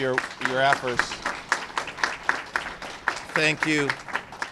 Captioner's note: applause